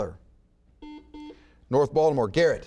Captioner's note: buzzer beeps